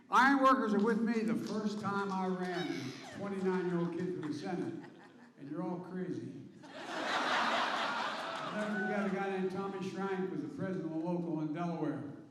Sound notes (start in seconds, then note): 6.6 laughter